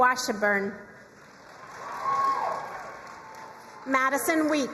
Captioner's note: crowd cheering and applauding